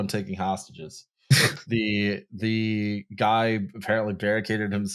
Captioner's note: scoffs